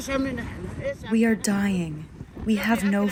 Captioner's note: through translator